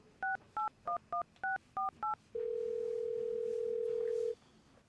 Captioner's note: phone dialing and ringing